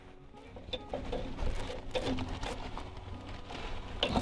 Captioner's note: bag rustles